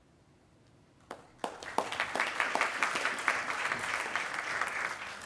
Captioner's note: attendees applauding